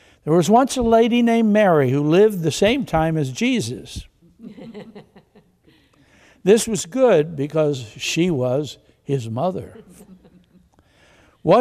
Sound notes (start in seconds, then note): 4.4 congregation laughs; 9.6 congregation chuckles